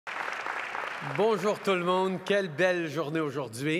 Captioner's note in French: Applaudissements